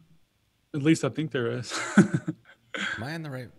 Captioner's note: laughs